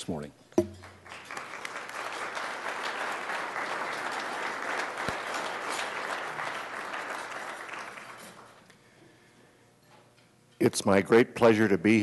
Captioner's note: applause